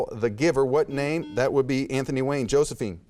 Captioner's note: buzzer beeps